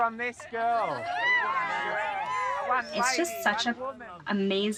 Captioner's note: crowd cheering